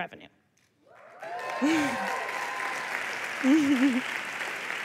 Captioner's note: applause